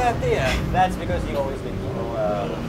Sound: winces

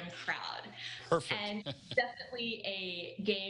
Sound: laughter

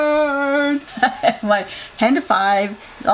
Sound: laugh

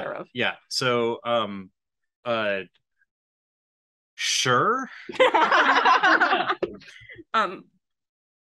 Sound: laughs

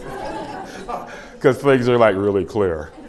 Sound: laughter; laughs

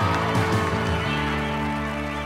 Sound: cheering, applause

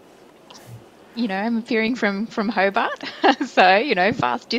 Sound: chuckling

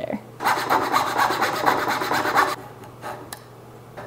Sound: rasping

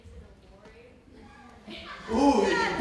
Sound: audience laughs

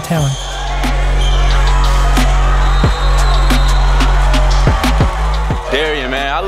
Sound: cheering; upbeat music

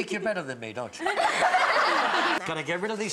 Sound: kids laughing

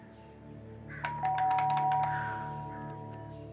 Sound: doorbell ringing

